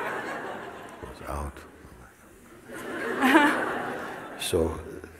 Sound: smijeh; smijeh

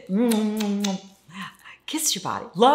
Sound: kissing

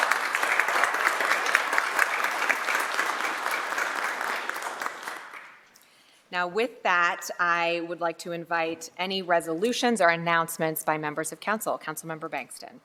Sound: applause

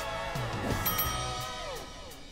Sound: bell dings

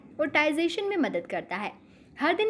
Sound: hindi

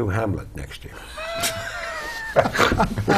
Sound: laugh

